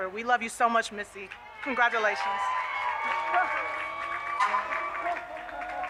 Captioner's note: audience cheers